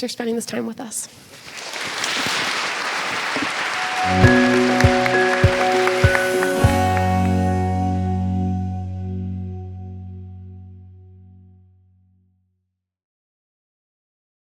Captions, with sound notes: for spending this time with us. (audience applauds) (gentle music)